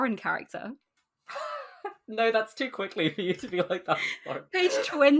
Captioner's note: laughs